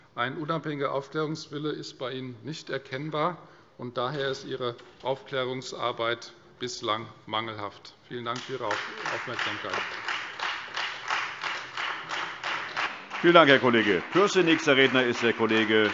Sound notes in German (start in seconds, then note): 9.9 Beifall